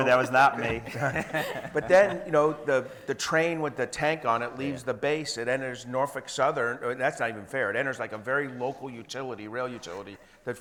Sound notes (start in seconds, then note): 0.6 group laughing